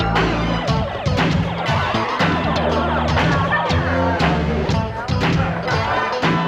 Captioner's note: upbeat synthesizer music; laser blaring